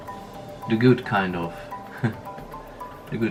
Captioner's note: giggles